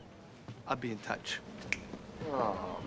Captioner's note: snaps fingers